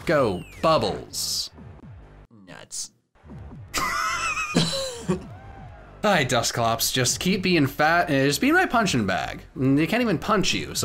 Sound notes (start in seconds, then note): 3.7 chuckling; 3.7 laughing